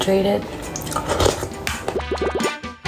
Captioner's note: slurp